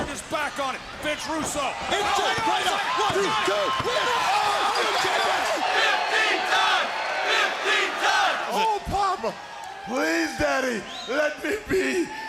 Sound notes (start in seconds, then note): 4.8 crowd cheering